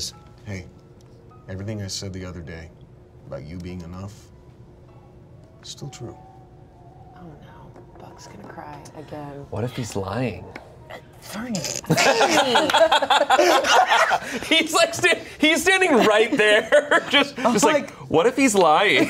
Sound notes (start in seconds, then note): 11.9 everyone laughs; 18.9 everyone laughs